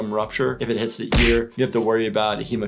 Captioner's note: ball hitting